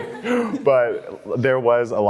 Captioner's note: laughing